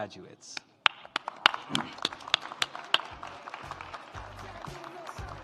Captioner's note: audience applauds; upbeat music